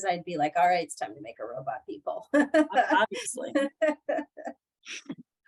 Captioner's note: laughter